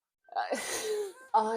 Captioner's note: uneasy laugh